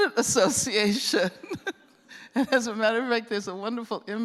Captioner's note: laughs